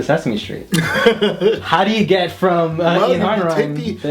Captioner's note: laughs